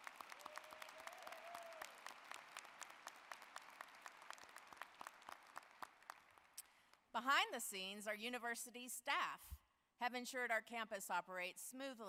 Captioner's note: applause